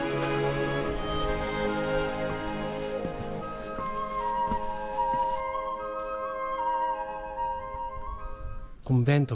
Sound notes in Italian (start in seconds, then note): 0.8 Rumore delle scarpe